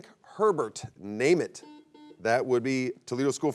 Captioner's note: buzzer beeps